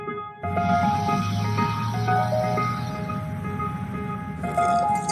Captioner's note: vehicles engine roars